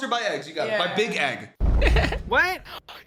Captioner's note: laughs